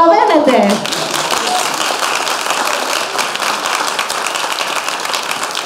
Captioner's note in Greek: χειροκροτηματα